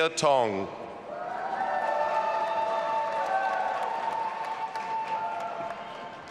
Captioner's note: audience applauding and cheering